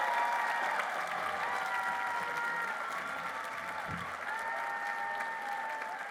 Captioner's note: applause